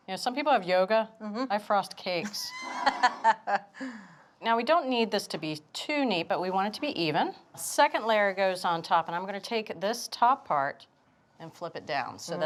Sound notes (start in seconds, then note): 2.2 laughs